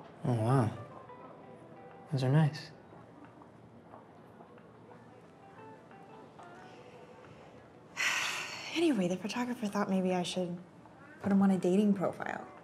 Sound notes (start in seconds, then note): none